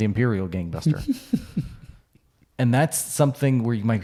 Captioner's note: chuckling